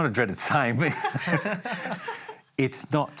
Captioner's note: laughter